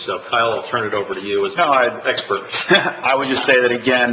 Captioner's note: chuckles